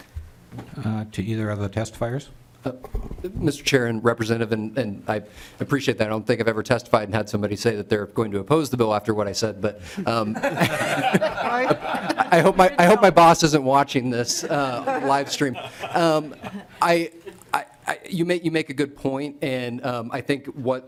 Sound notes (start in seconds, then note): 16.2 laughter